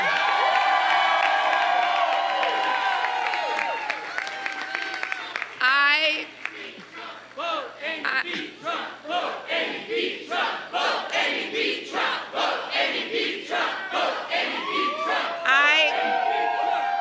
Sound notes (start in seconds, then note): 5.7 applause; 6.4 crowd chanting "vote amy, beat trump